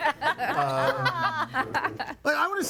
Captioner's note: guests laughing